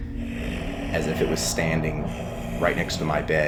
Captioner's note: intense breathing